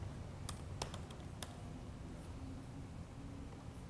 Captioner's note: keyboard clicking